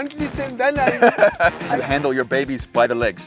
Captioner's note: laughing